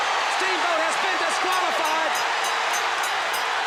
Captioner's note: crowd cheering